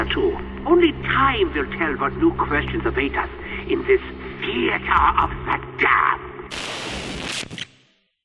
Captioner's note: static